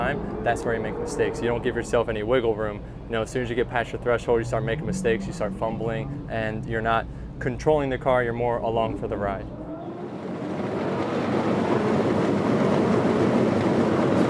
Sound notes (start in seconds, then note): 11.1 engines revving